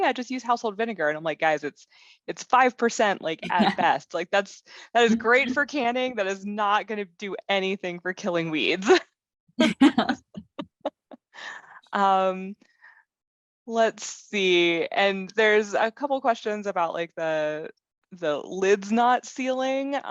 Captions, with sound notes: yeah just use household vinegar and I'm like guys it's it's five percent like at best. Like that's that is great for canning, that is not gonna do anything for killing weeds [Laughter]. Um let's see and there's a couple questions about like the the lids not ceiling